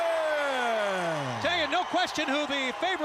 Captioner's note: crowd cheering